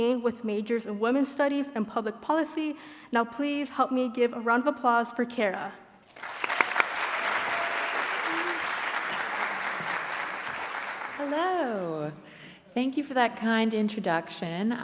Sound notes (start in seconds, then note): 6.1 audience applauding